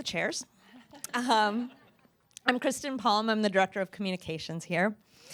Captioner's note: laughter